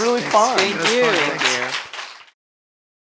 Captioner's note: applause